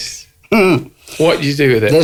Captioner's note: laughs